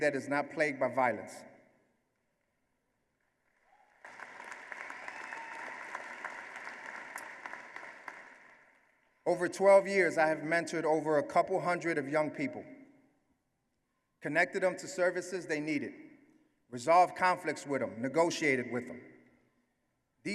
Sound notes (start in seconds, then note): 3.4 applause